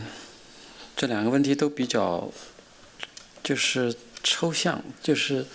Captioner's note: speaking chinese